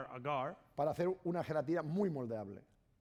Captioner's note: speaking spanish